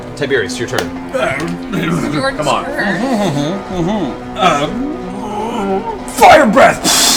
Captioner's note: grunts